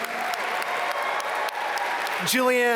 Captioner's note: audience cheer and applaud